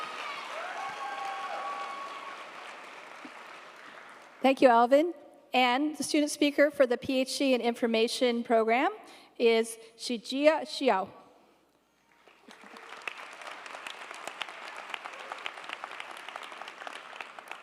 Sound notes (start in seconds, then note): 12.0 audience applauding